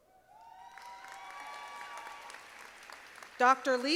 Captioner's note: audience applauding